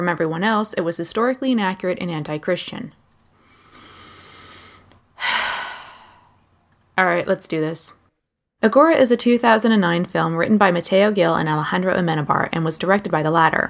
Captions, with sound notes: From everyone else, it was historically inaccurate and anti-christian. *deep fortifying breath* *heavy sigh* All right, let's do this. Agora is a 2009 film written by Mateo Gil and Alejandro Amenábar and was directed by the latter.